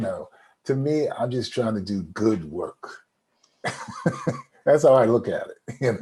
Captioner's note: laughs